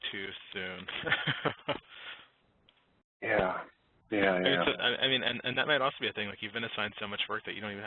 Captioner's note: laughing